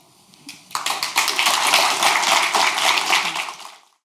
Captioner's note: audience applauds